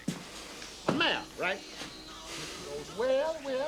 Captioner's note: men arguing